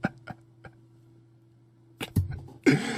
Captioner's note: laughs